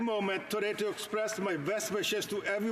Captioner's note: speaking alternate language